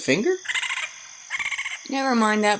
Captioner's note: angry raccoon chittering